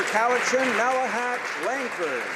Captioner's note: applause